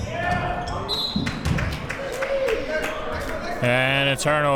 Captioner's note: whistle blows